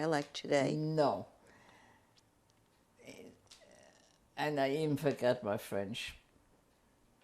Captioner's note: pauses for 3 seconds